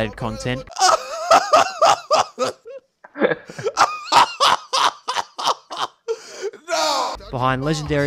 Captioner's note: laughing fit